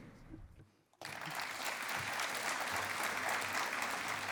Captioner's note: applause